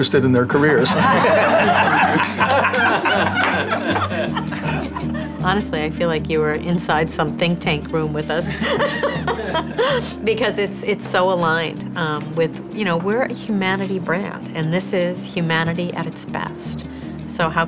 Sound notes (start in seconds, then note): 0.8 everyone laughs loudly; 8.5 laughs